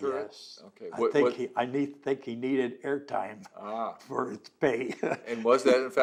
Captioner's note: laughs